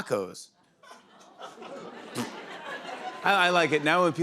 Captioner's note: laughter